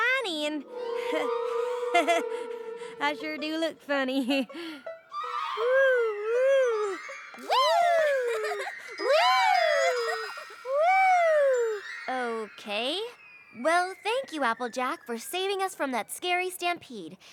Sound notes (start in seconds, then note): 1.7 chuckles; 7.8 giggles